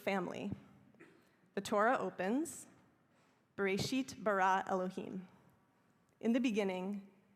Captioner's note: hebrew